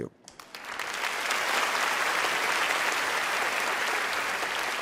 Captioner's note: applause